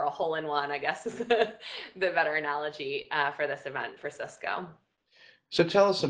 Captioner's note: laugh